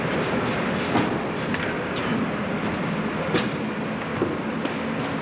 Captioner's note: sound of footsteps